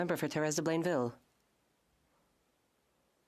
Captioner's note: speaking French